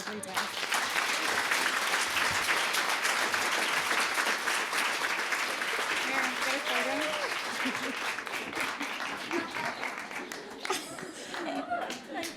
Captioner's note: applause